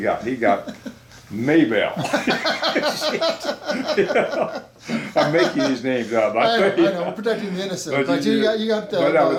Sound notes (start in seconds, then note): 2.0 both laughing